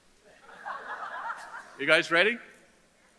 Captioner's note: audience laughs